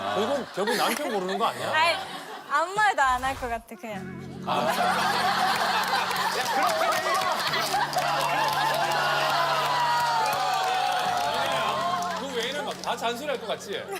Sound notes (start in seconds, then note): 6.4 laughs